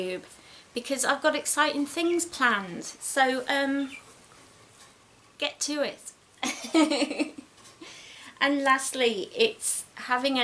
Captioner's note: giggles